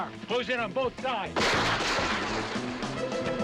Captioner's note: gun firing